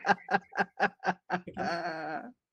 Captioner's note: laughing